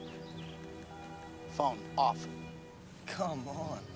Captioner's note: phone beeps